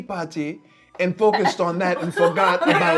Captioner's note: laughing